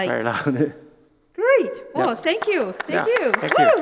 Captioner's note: claps